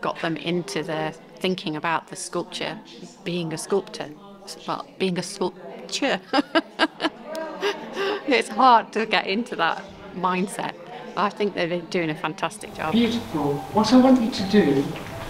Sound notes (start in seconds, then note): 6.2 laughter